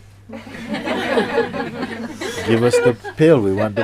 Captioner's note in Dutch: Gelach